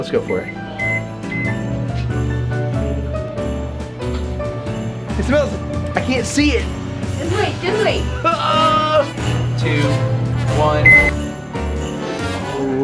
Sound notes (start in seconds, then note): 1.7 upbeat jazz music; 7.4 Rocky groans; 11.0 microwave beeps